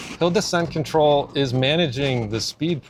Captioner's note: none